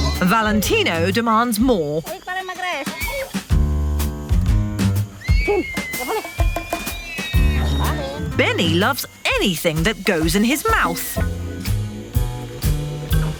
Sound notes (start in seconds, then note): 2.5 in foreign language; 2.5 light upbeat music